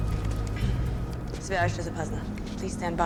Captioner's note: speaking russian